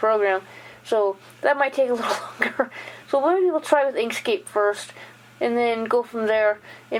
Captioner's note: laugh